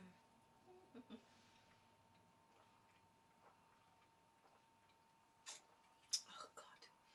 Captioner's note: gulps